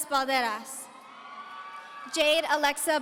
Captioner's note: audience cheering